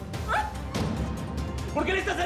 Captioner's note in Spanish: Gemidos de ella